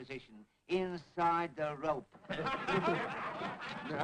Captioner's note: laughter